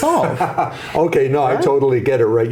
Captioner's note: laughs